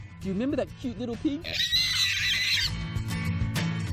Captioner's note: pig squeal